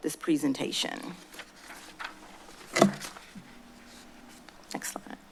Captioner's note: paper shuffling